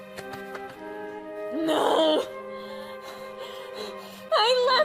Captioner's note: begins hyperventilating